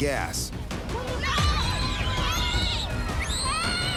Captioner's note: children screaming